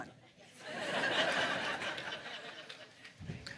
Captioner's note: laughter